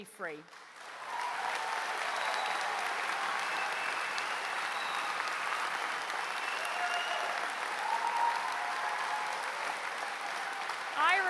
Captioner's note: applause